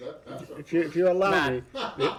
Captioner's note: laughter